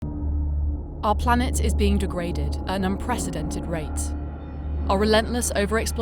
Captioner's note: voiceover